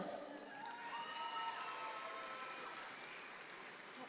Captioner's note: audience cheers